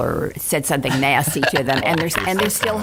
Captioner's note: laughing